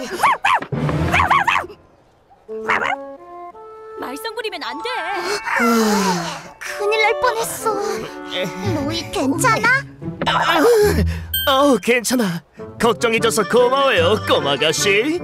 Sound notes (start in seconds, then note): 1.1 dog barking; 5.1 relieved sighs; 10.1 Louis groaning